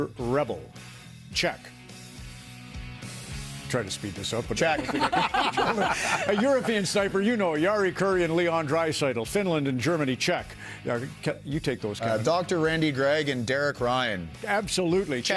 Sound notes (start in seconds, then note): 7.2 laughter